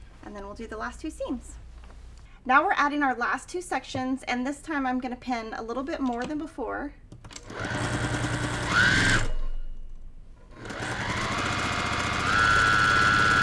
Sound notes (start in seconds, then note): 7.9 sewing machine humming